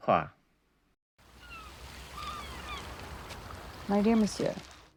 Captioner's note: gulls and waves